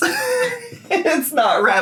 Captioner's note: laughs